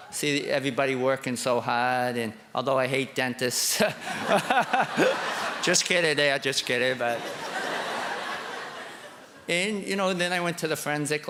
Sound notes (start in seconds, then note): 3.8 laughter